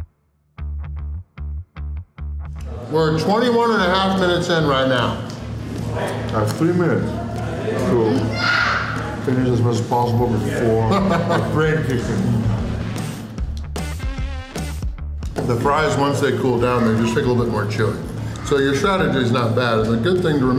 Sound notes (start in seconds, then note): 10.8 laughter